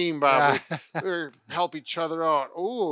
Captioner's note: laughing